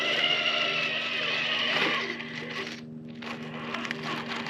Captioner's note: vroom!